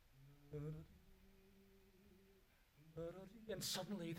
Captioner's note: hums